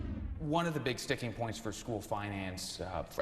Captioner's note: swoosh